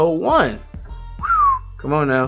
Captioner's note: whistling